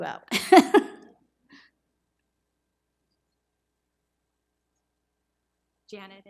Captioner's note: laughs